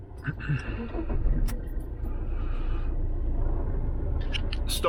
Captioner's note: clears throat